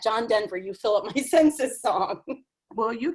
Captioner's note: laughs